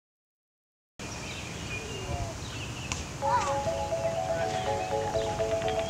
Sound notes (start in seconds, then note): 1.0 birds tweeting; 3.2 gentle music